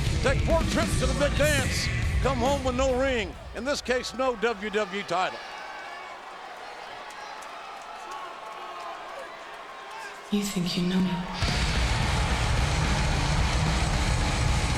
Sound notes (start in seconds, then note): 5.9 audience chattering; 11.4 upbeat rock music